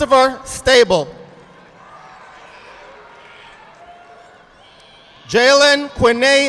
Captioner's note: audience applauding